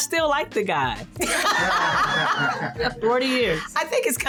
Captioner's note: laughter